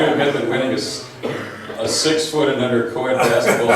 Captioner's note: laughs; laughs